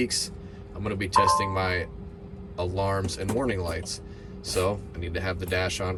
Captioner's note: tractor beeps